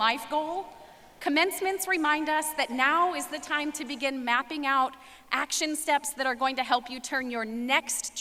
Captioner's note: none